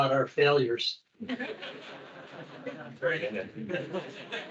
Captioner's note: attendees laughing; attendees chattering